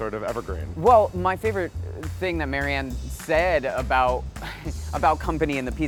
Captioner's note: giggles